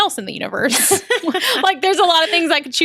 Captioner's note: laughter